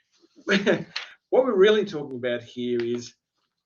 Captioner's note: chuckles